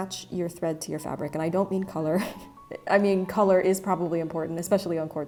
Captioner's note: laughs